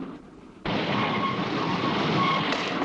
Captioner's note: brakes screeching